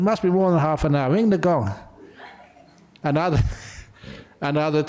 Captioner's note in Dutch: lachen